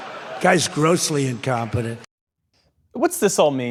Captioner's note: laughter